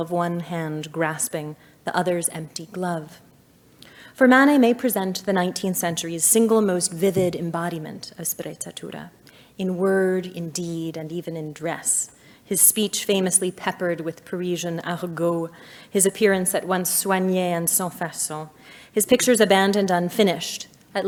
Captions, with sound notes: of one hand grasping the other's empty glove. For Manet may present the 19th century's single, most vivid embodiment of sprezzatura. In word, in deed, and even in dress, his speech famously peppered with Parisian (speaking in French), his appearance at once (speaking in French), his pictures abandoned unfinished,